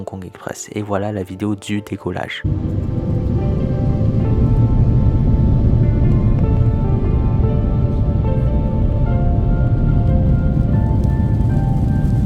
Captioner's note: sound of takeoff